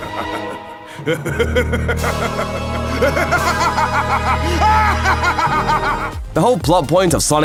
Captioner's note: maniacal laugh